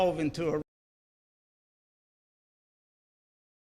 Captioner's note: silence